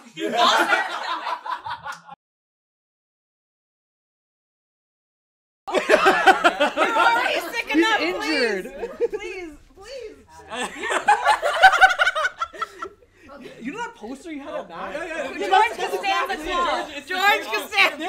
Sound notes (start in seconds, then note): 4.0 laughter